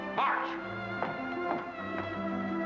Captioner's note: boot steps